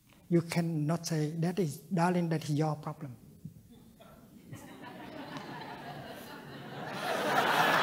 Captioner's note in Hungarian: laughter